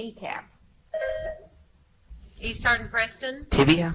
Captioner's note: buzzer chimes